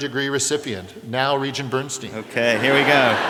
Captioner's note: laughter